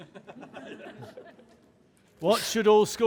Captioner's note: audience laughs